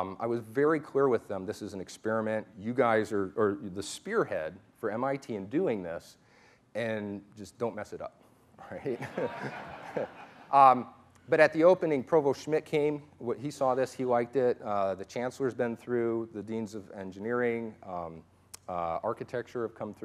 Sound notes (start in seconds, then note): 8.8 laughter